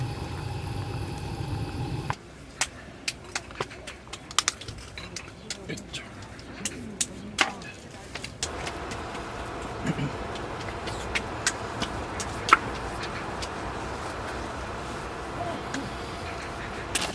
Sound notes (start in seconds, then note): 8.4 sound of applying skin lotion